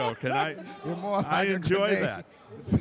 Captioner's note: laughing